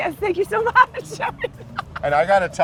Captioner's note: laughing